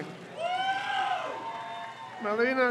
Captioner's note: crowd cheers